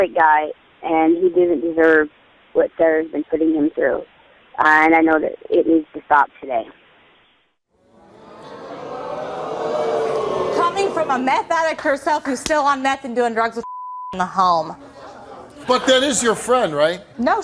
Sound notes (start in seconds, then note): 7.9 audience oohing